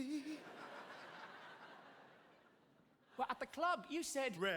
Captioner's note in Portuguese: audience laughing